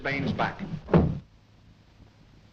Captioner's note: thuds